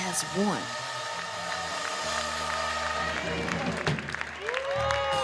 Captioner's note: audience clapping